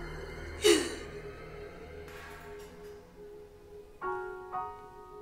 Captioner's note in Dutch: Tina snikt